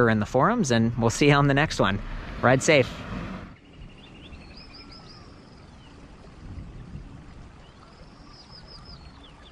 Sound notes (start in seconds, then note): 1.0 whooshing; 4.2 birds chirping; 4.2 water flowing